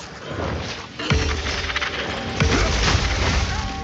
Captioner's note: warning sound plays